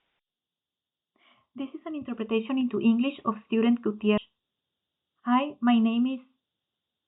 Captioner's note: speaking in spanish